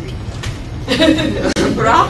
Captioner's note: laughter